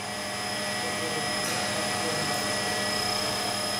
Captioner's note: machine noise